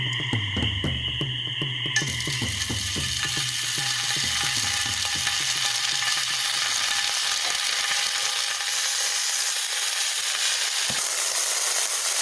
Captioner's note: bacon sizzle